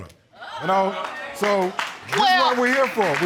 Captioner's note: audience exclaiming